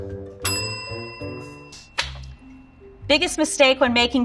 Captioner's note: bell dings